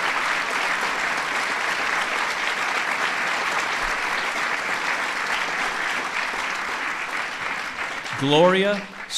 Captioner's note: applause